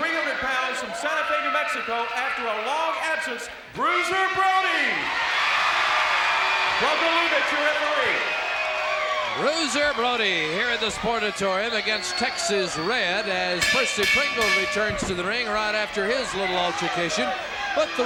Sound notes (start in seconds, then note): 5.4 crowd cheering